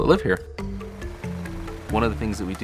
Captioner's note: ditch digger running